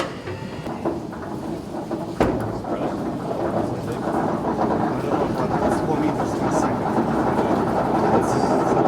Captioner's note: elevator mechanism clacking